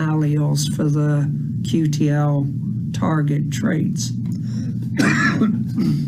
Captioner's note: coughs